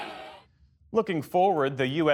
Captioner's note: cheering